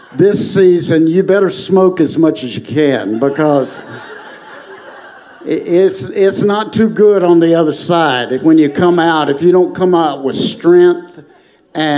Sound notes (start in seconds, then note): 2.2 congregation laughing